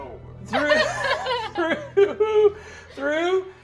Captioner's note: laughing